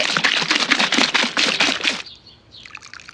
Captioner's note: sloshing